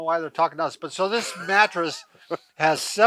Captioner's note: laughing